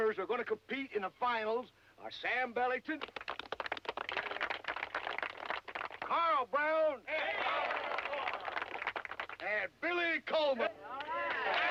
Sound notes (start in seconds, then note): 2.9 crowd clapping; 7.9 crowd clapping; 10.9 crowd clapping and cheering